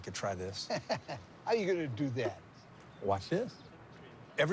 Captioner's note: laughing